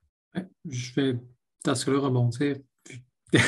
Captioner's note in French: glousse